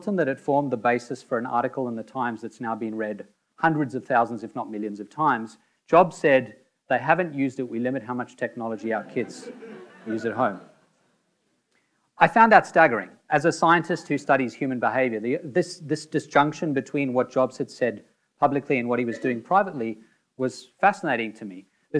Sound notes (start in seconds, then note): 8.8 audience laughing